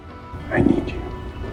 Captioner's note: voiceover